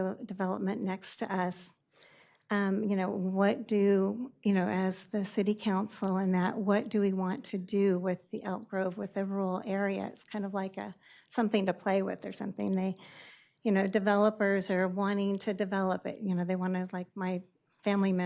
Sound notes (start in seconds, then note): none